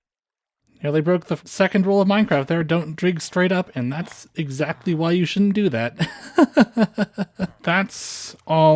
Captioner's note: laughter